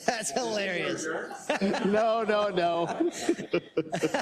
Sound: laugh

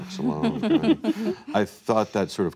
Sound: chuckles

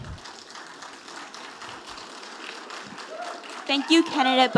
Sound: audience applauding

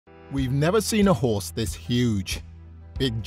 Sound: voiceover

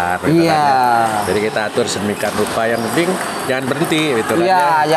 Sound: applause

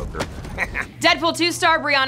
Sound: Deadpool laughs

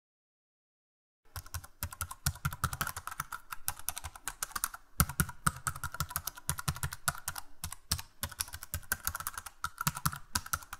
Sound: sound of keyboard typing

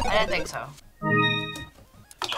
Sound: digital chime; buzzer

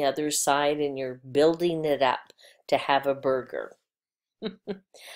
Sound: chuckle/laughing

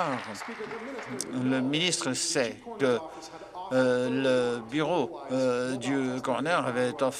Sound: applause

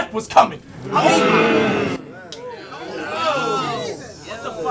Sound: audience yells

